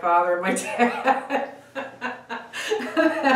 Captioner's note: laughs